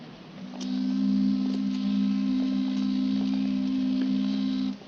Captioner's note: boat team whistle blowing